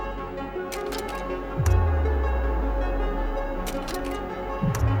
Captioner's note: transitions clacking